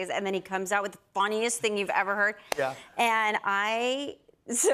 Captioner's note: none